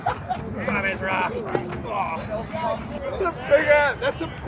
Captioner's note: grunting